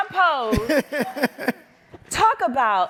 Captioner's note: laughs